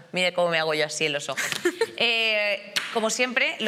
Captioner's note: laughter